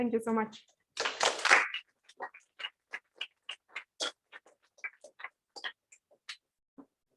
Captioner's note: applause